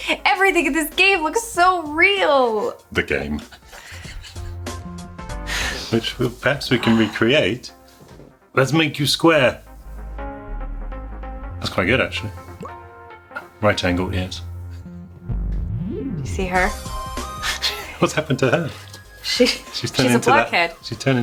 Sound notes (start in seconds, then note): 4.2 giggles; 11.0 bright music